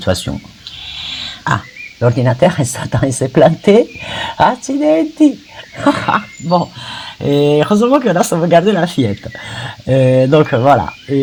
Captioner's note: laughs